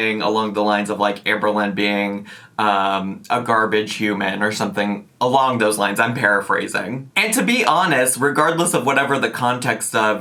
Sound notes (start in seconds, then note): none